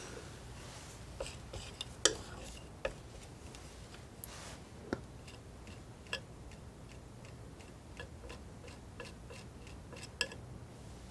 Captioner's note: scratching